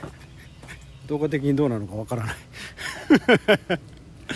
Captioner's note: laughs